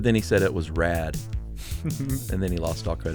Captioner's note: laughs